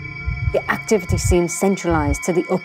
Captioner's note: heart beating